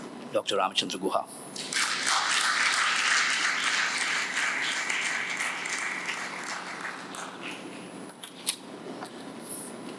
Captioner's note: applause